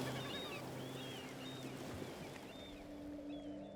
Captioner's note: bird calls, splashing